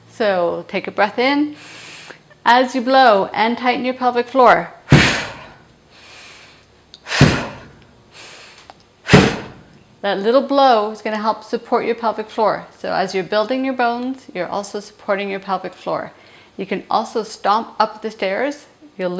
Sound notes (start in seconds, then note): 7.2 stomping